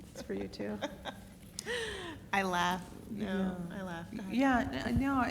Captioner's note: laugh